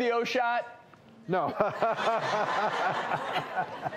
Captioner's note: laughs